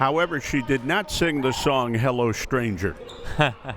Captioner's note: laughs